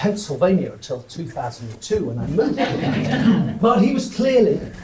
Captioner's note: audience laughs